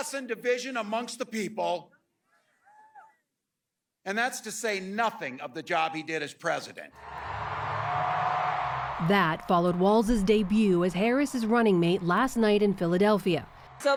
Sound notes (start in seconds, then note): 7.7 cheering; 8.1 applause